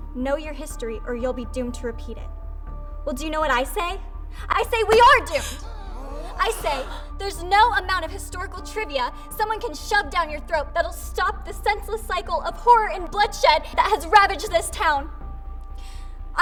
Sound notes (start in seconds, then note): 5.0 crowd gasping